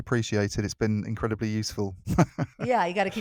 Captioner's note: laughs